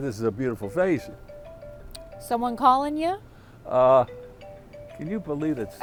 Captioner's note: telephone rings